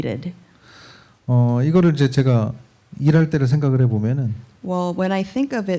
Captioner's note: speaking korean